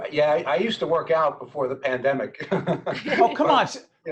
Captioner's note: laughing